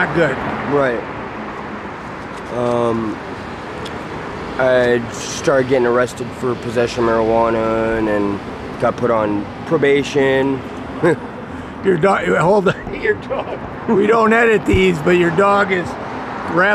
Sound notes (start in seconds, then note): 12.2 laughs